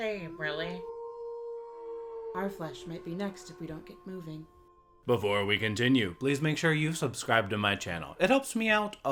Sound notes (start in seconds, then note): 0.0 wolves howl in the distance